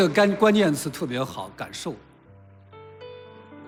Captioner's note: 中文